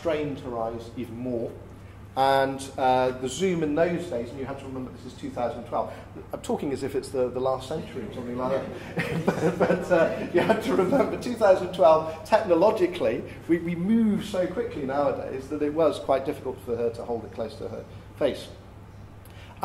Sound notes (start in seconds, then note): 8.4 laughter